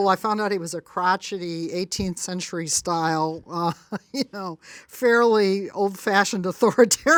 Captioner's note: laughs